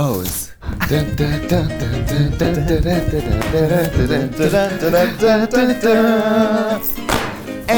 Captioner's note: both humming " "